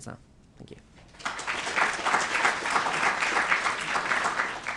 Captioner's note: applause